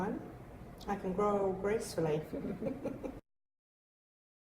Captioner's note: laughter